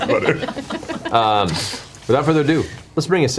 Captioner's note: all laugh